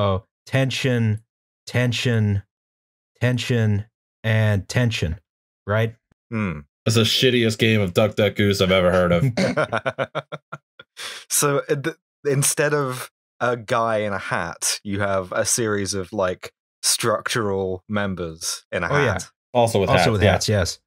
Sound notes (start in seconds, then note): 9.1 laughter